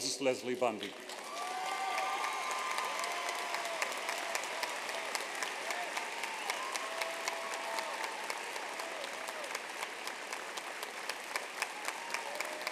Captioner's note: applause